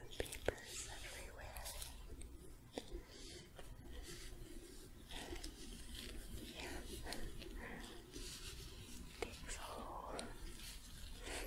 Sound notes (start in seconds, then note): 2.3 glove sounds, stroking